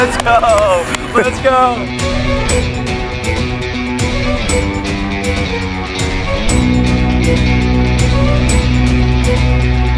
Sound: laughs

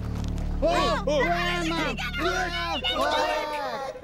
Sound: all shouting in alarm

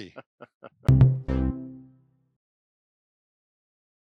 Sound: laughing

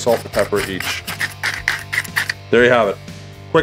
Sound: pepper grinding

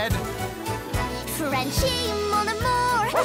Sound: barks

